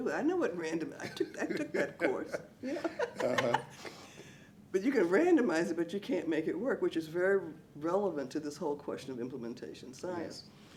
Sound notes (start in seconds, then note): 2.6 laughs